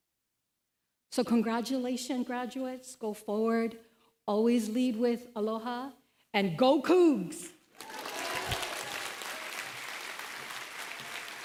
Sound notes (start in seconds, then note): 7.7 applause